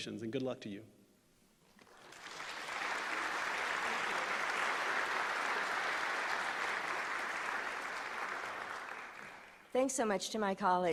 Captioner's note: applause